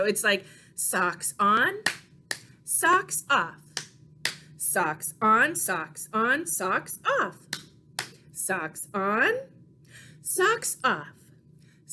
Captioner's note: clap, clap